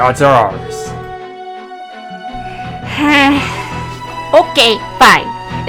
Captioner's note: l sighs